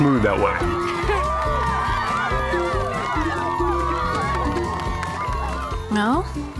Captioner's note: cheering